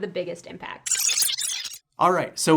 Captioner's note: digital glitch